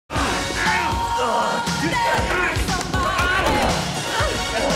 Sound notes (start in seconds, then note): 0.1 groans